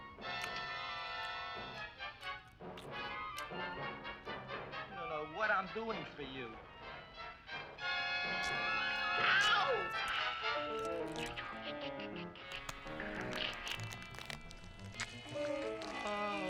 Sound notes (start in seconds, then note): 0.1 chewing sounds; 8.3 chewing sounds louder